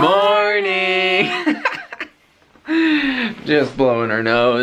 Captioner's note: laughter